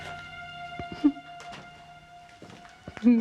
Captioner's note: Agnes whimpers